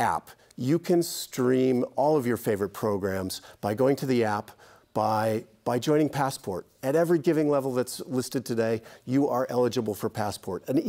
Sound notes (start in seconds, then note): none